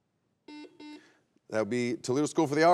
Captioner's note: buzzer beeps